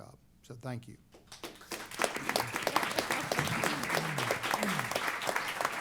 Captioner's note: applause